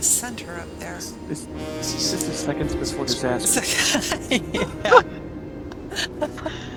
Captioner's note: laughter